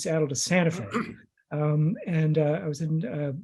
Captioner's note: clears his throat